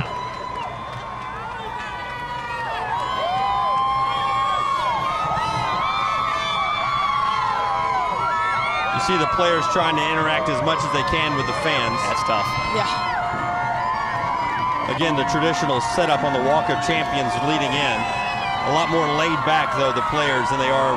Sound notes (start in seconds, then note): 8.5 cheers